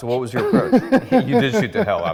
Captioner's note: laughs